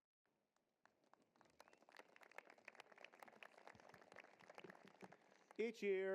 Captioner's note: applause